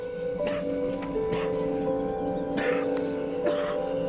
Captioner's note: coughs